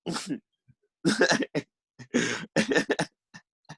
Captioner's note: laughs